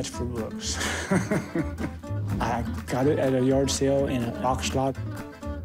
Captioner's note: laughs